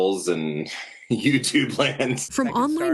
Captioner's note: laughing